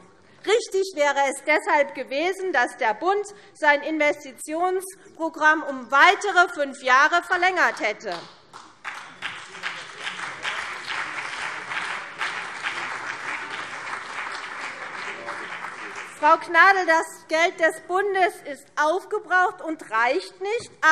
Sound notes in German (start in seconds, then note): 8.5 Beifall CDU und BÜNDNIS 90/DIE GRÜNEN